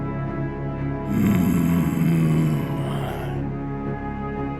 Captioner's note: growls intimidatingly